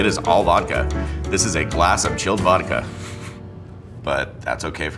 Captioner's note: chuckles